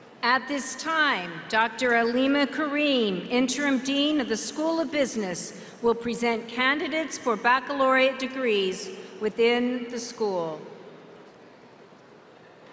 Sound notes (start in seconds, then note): none